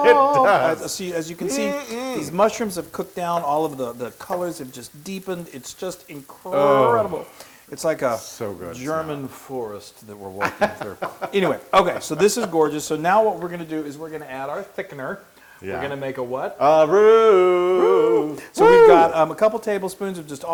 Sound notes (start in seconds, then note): 10.4 laugh